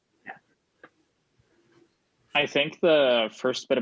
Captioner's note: laughs